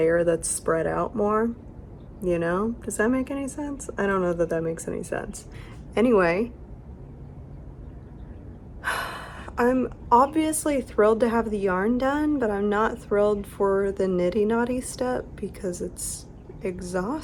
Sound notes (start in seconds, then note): 8.8 sigh